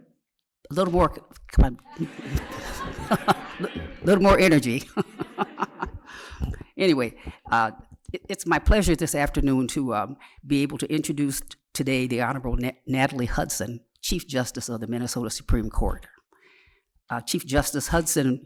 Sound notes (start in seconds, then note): 4.0 laughter; 5.8 laughs